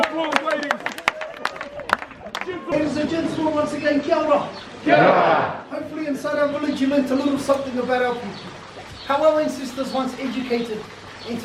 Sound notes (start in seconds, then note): 1.5 group applauding